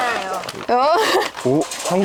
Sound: laughing

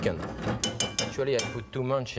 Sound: spoon clinging

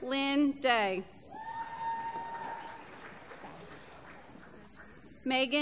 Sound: applause

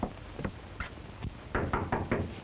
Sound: knocking

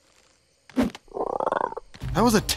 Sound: croaking

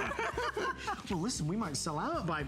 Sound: laughter

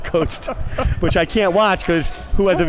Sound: laughing

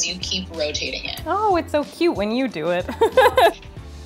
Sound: laughs

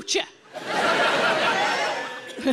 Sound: audience laughing; laughing; audience member cheering

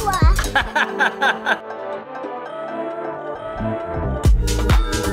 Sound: laughing; high-energy music

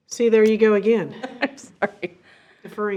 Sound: chuckles

